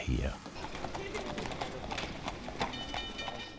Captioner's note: clatter of hooves, background voice